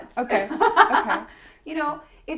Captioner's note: laughs